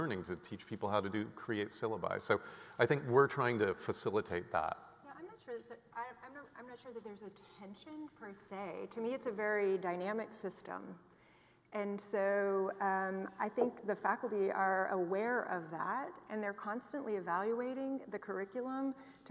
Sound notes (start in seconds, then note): none